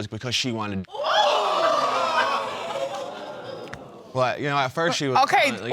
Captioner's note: audience exclaiming